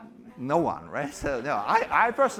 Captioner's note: laughter